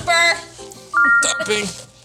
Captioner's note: laughing; text chiming brightly